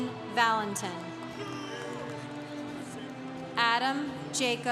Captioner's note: congregation cheering